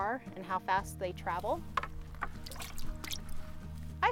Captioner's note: fish splashing into bucket